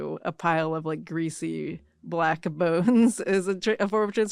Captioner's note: chuckles